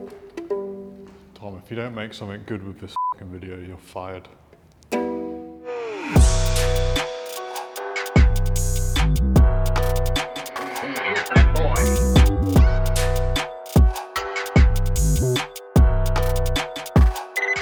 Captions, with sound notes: Tom, if you don't make something good with this (beep) video, you're fired. (Upbeat music)